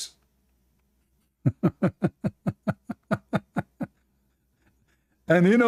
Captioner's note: Ketawa